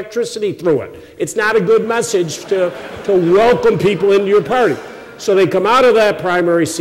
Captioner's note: laughter